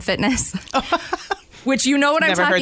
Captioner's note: laughs